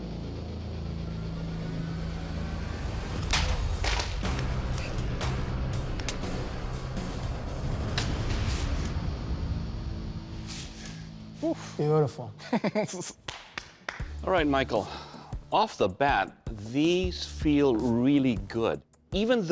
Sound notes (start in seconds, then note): 12.4 laughs; 13.2 claps